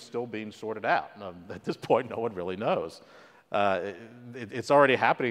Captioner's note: laugh